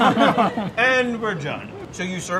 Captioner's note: laughing